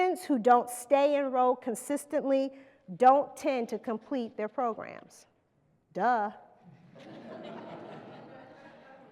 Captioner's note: laughter